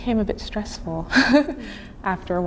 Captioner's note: chuckling